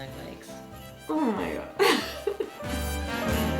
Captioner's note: chuckles; warm festive music